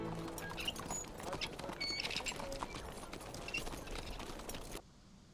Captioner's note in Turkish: At nalı sesleri